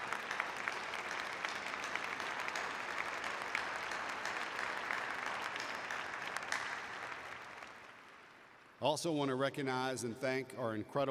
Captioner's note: applause